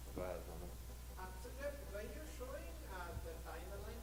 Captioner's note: voiceover